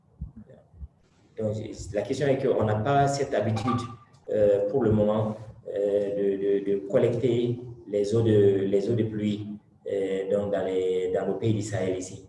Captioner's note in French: Speaking in French